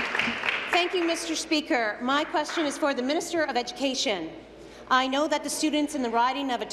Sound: applause

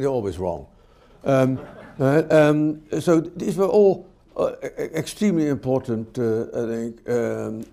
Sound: laughter

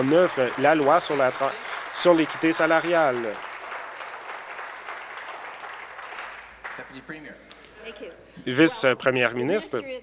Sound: applause

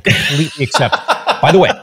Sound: laughing

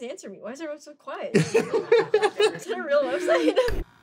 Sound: laughter

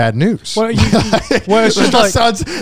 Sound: laughs

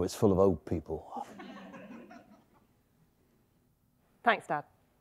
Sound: audience giggling

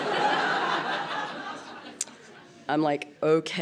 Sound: laughter

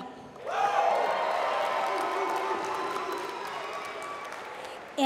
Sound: applause

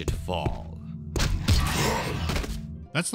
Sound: thud

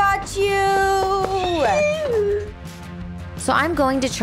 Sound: screeching

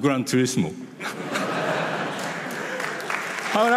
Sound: audience laughs and applauds

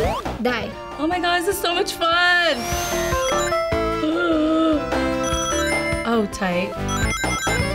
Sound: gasps

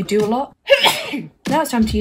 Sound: sneezes

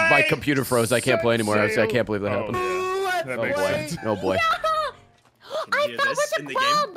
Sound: gasps

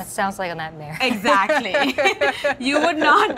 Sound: both laughing

